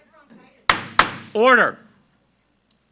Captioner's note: gavel bangs